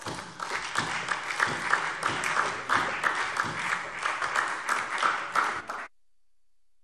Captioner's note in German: Beifall SPD und vereinzelt DIE LINKE